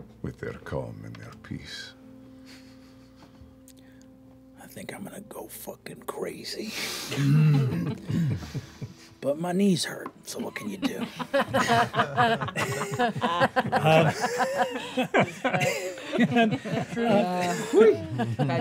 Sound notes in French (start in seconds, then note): 7.4 rires; 10.4 rires